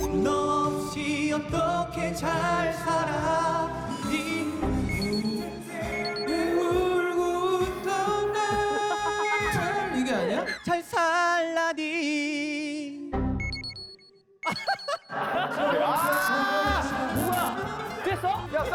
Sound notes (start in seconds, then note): 6.4 I cry and laugh